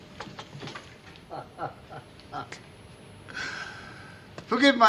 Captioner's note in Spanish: Riéndose